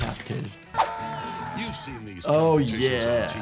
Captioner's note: man screaming